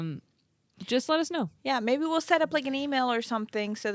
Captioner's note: none